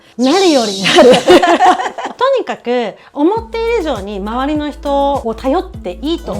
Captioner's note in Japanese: 笑い